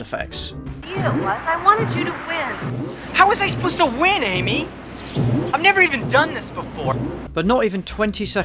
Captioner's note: horny squeaking and bouncing